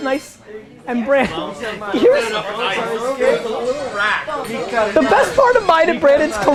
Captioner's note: laughs